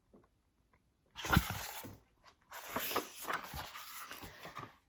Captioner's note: turns page